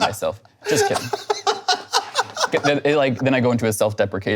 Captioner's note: laughing